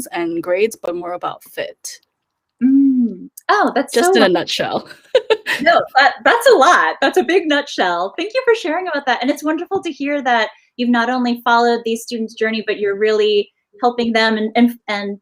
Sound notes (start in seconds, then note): 4.9 laughs